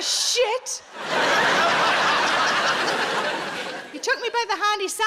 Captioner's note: audience laughing